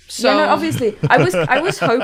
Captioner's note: laughs